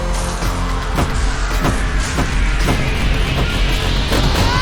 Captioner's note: slow-mo firing sounds